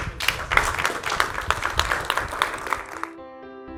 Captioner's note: applause